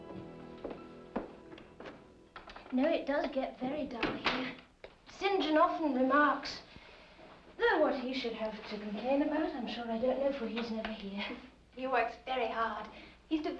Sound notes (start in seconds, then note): 0.0 footsteps; 4.5 door closes